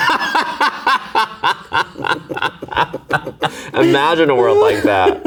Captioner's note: both laughing